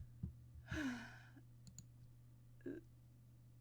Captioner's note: sighs